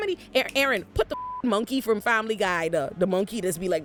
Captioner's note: beep